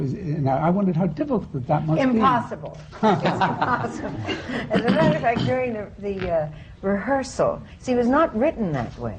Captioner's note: laughter